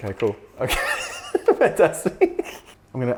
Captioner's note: laughing